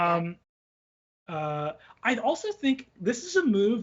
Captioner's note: none